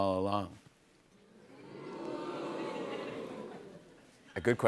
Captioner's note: audience oohs